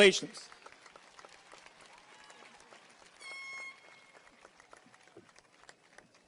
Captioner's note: audience cheers and applauds